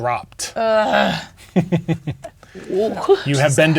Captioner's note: chuckling